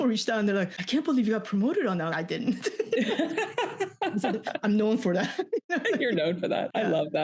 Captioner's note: laughs